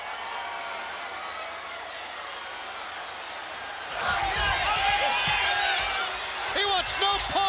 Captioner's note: crowd chatter